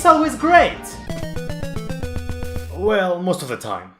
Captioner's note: Death sound from Castlevania plays